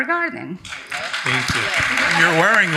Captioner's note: audience applauding